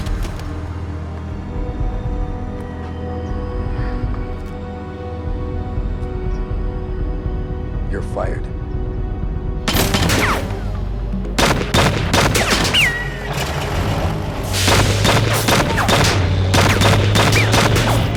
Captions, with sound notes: (dramatic music) - You're fired. (guns firing) (dramatic music)